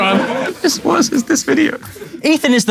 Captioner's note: people in room laughing